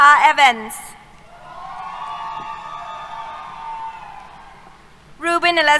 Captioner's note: cheers